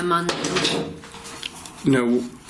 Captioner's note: loud clattering